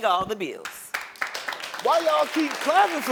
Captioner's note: audience applauds